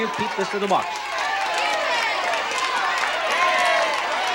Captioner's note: audience shouting